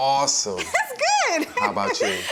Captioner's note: enthusiastic laughter